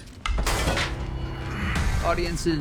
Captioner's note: metal clanks